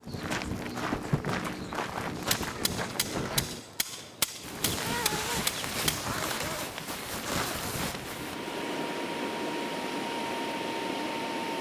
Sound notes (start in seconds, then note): 0.7 gravel crunching; 2.3 man hammering; 4.5 man zipping; 8.5 air compressing